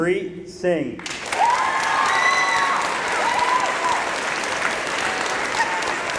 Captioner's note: applause